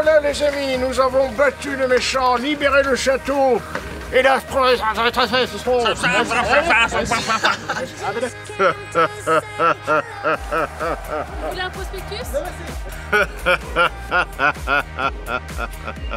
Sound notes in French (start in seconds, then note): 6.1 bafouillement voulu; 8.5 rire maléfique; 12.8 rire maléfique